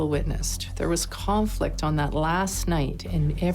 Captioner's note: people chatting